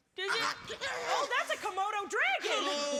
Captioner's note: growling